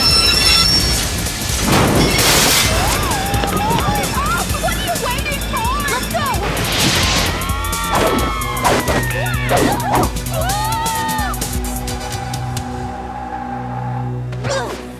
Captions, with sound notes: No way we're going to-- [cable grinding] [crash] Hurry up. What are you waiting for? Let's go. [screaming]